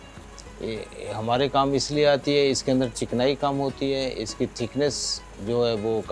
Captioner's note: speaking foreign language